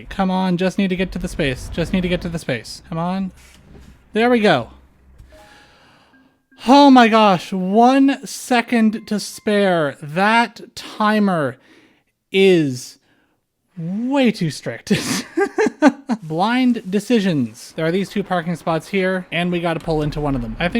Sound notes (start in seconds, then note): 14.9 laughter